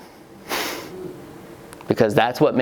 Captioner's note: chuckles